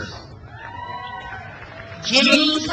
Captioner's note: crowd cheers